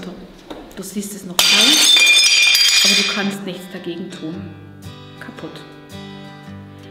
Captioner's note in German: Klirr